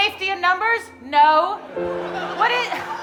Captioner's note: audience laughing